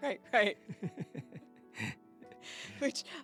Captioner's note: both laughing